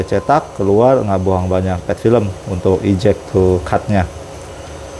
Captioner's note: printer machine noise